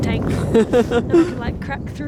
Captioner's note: laughing